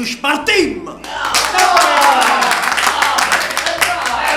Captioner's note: applause and shouts of exultation